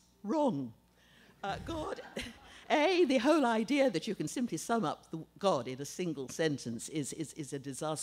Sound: laughter

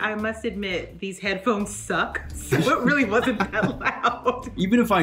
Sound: laughs

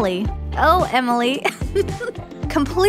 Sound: chuckle

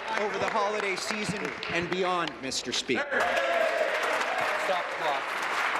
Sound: applause

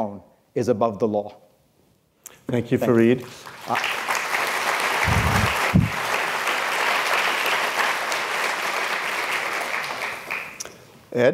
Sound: applause

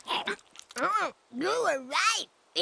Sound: chomp

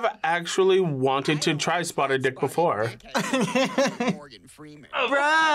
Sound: laughs

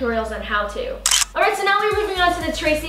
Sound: clicking

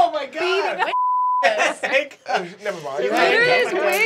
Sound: beep

